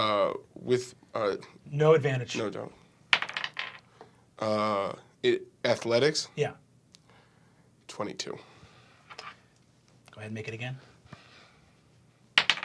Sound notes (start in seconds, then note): 3.1 dice bouncing